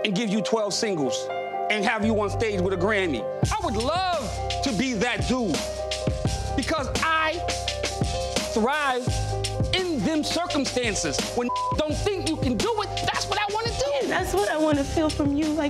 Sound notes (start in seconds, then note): 11.4 beep